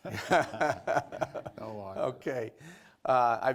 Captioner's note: laughter